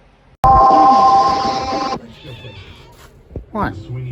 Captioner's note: Caprice meows